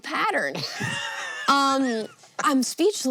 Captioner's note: HANK wheeze-laughs